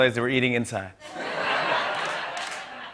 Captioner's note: laughter